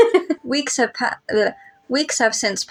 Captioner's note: laugh; blubber